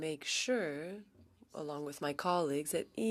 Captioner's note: speaking French